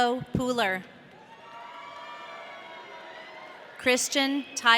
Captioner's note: audience cheering